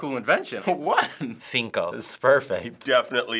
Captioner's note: chuckles